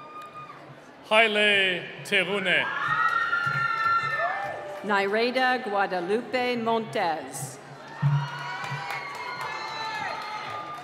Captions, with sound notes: - Hilay Tahunay. (cheering) - Nirada Guadalupe Montez. (cheering)